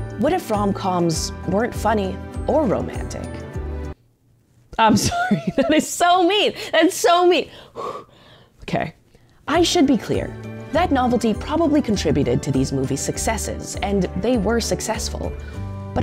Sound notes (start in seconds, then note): 7.7 huffs